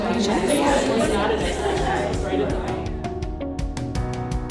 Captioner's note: voices loudly murmuring